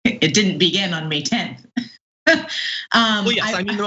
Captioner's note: laugh